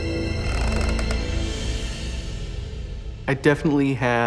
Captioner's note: creaking